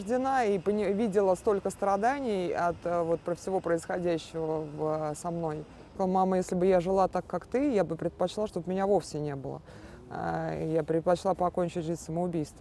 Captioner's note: speaking russian